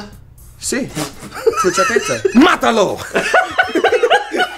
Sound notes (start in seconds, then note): 1.1 laughs